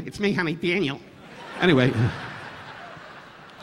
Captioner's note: audience laughing